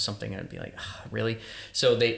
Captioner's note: sighing